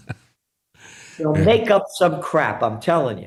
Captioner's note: laughing